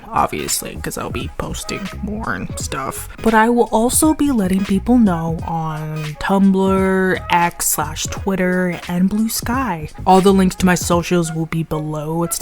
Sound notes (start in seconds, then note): 0.0 muttering; 3.2 in normal voice